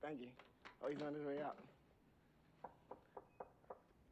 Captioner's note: knock on door